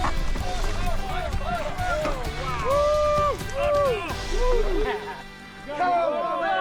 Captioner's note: cheering